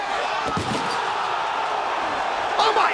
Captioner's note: crowd vocalizing; crowd exclaiming; Tanaka thudding